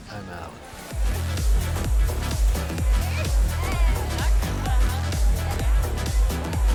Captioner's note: people chattering; energetic dance music